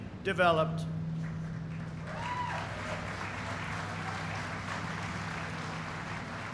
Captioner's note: applause